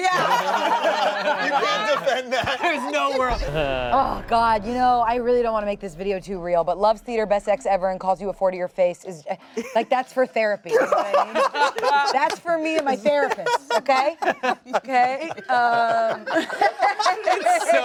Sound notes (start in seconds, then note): 0.0 everyone laughs; 10.7 everyone laughs; 16.0 everyone laughs